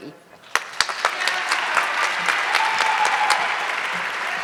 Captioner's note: audience clapping